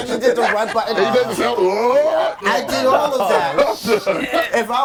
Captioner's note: overlapping chatter and laughter